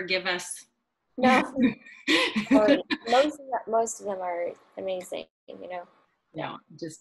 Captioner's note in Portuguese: rindo